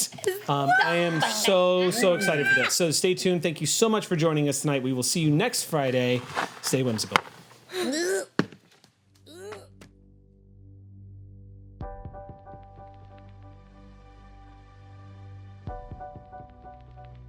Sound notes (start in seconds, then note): 9.3 grunting; 11.8 soft music